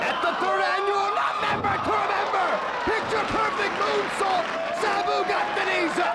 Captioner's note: presenter speaking faintly off mic